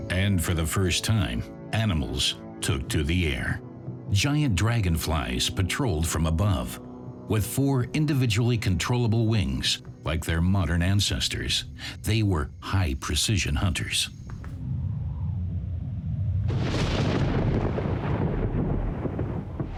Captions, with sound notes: And for the first time, animals took to the air. Giant dragonflies patrolled from above. With four individually controllable wings, like their modern ancestors, they were high-precision hunters. [thunder rumbles]